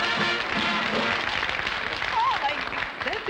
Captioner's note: applause; trumpets blaring; applause